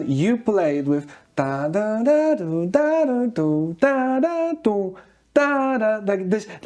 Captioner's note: humming